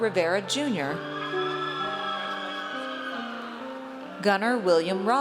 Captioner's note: audience cheers